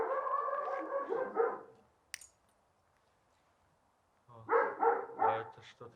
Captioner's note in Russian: гавкает собака